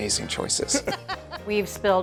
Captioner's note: Julia laughs